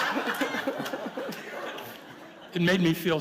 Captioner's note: laughter